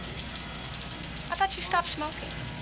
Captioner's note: none